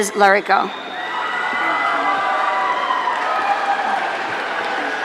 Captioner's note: audience cheering